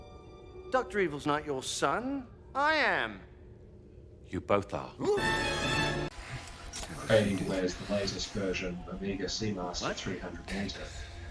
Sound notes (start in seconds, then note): none